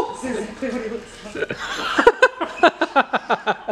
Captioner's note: laughing